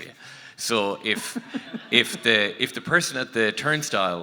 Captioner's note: audience laughing